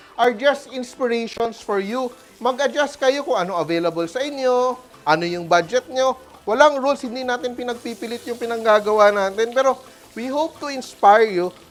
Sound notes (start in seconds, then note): 0.0 sizzles